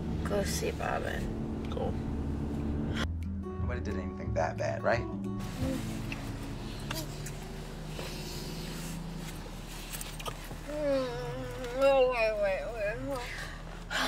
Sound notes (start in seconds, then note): 5.4 makeout noises